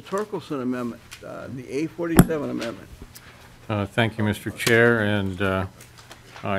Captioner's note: gavel